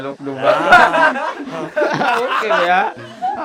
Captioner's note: laughs